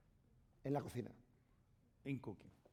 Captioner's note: speaking spanish